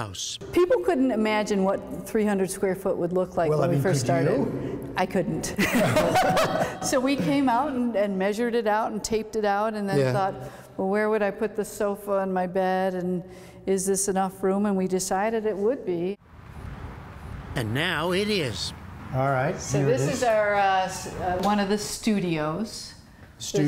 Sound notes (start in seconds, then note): 5.5 laughter; 16.8 voice-over